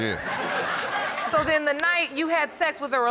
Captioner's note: audience laughing